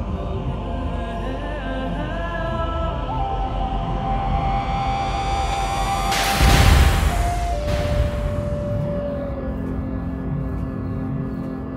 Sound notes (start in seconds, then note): 6.0 engines power down